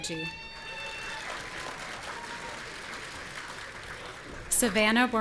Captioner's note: audience cheering